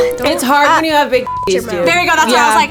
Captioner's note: beep